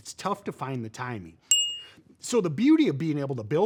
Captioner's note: bell dings